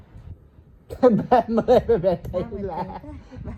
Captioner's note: cười